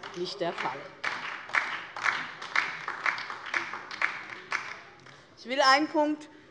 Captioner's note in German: Beifall DIE LINKE und vereinzelt SPD